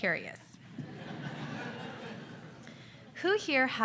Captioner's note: audience laughs